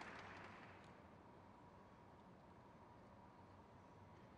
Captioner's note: crowd claps